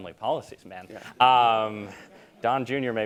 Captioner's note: laughter